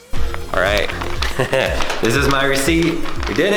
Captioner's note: laughs